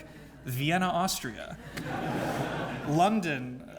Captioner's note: laugh